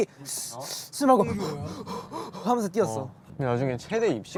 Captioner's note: exhibit A. A jogger breathing; exhibit B. breathing